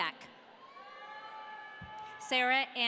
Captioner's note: audience cheering